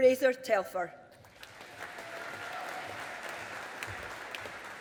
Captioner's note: audience applauding